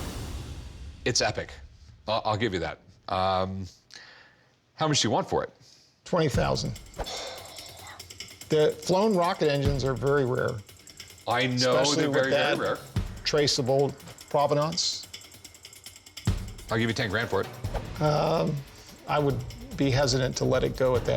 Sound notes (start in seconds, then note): 7.0 exhales deeply